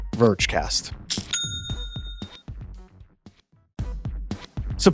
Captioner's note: cash register ka-chings; lively music